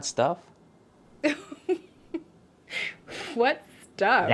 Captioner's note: laughter